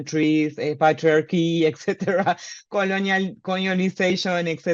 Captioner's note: laughs